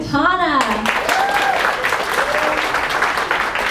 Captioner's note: applause